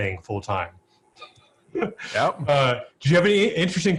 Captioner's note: laughs